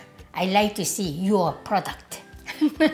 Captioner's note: laugh